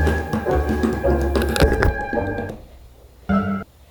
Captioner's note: tapping